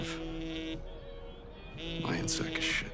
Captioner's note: phone buzzing